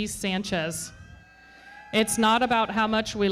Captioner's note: audience cheering